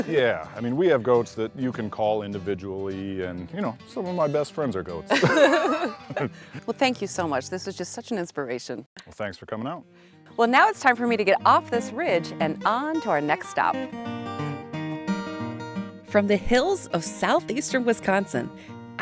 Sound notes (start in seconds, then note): 5.1 laughing